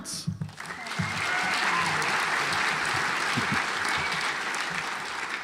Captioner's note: audience applauds